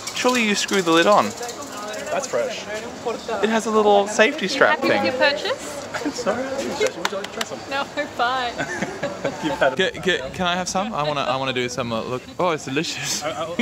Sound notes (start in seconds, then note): 8.2 murmers